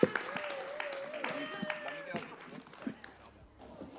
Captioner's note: cheering